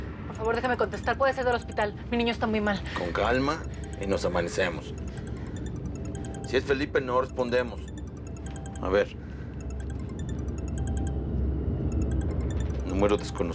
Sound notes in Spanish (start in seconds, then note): 0.0 suena un celular; 2.6 celular sonando; 11.9 celular sonando